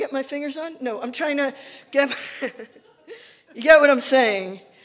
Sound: laughing

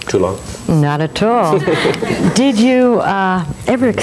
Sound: chuckling

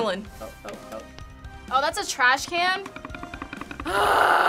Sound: timer rattling; growls in frustration

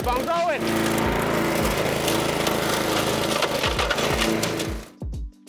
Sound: mower engine revving

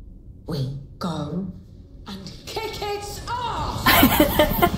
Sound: laughs

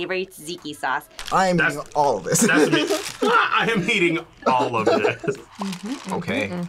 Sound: laughs

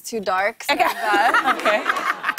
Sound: laughter

